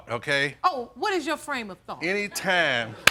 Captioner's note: audience chuckling